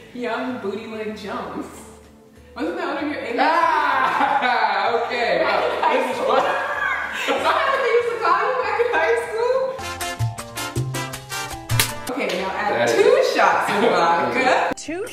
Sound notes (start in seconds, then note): 3.4 laughing; 9.9 fun music